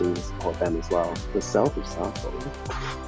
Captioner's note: chuckles